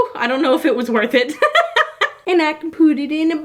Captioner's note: laughs